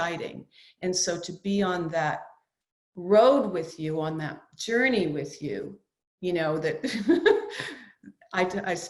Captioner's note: laughs